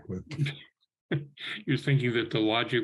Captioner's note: laughing